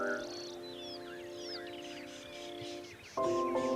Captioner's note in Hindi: चहचहाहट; उदास संगीत